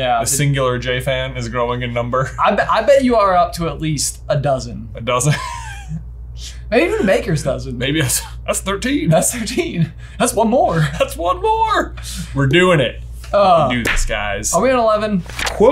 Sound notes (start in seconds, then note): 5.2 chuckles